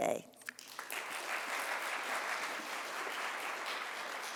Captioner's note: audience applauds